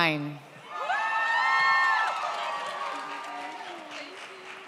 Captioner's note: audience cheers